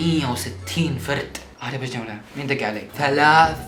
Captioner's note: imitating Urdu speech